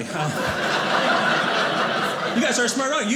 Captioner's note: audience laughing